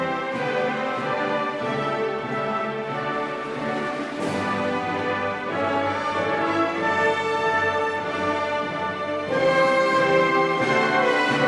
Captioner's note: cheering